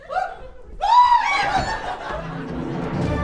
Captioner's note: audience screech of fear